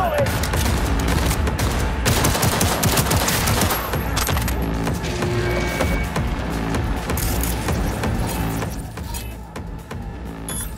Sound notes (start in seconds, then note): 0.1 gun firing